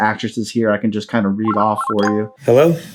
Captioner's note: computer rings